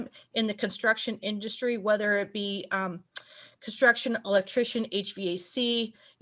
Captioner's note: lips smack